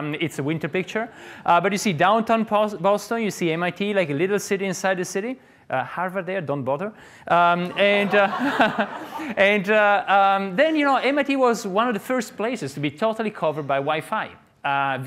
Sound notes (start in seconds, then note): 7.6 audience laughs